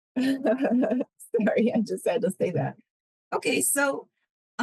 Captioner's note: laughs